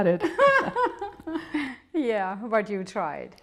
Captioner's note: laughing